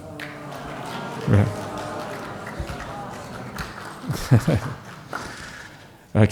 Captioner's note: applause